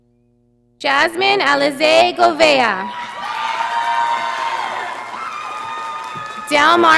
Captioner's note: audience applauding